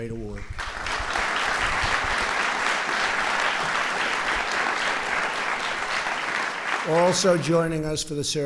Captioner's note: applause